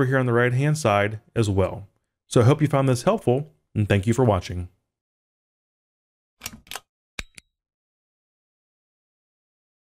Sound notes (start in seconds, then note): 7.2 buttons clicking